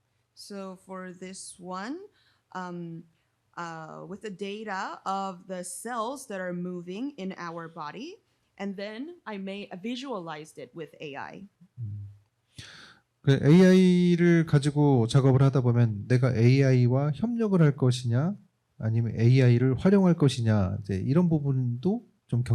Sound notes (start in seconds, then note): 13.7 speaking korean